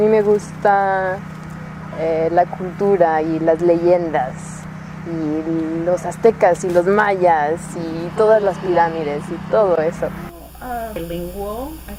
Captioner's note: speaks Spanish